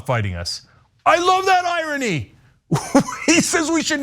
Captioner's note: laugh